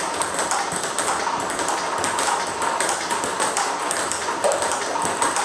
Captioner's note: ball ping pong hitting continues